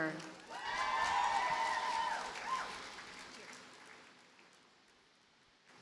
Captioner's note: audience cheers and applauds